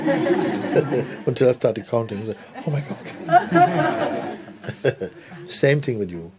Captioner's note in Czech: smích; smích